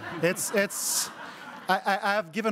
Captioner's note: crowd laughing